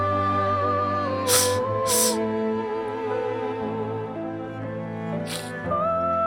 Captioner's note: sniffling